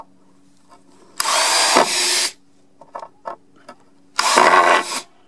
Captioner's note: loud whirling; loud grinding